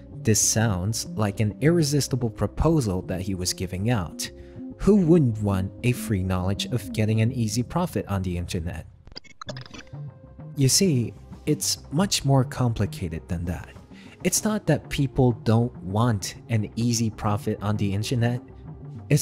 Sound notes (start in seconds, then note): 8.2 music shuts down; 9.0 glitch sound effects